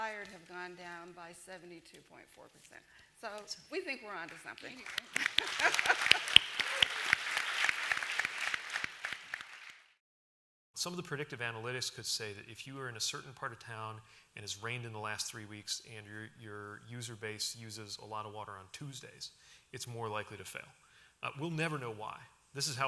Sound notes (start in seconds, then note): 4.2 applause